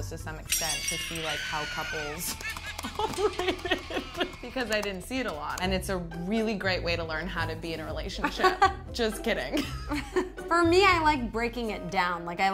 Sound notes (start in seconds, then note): 8.4 laughing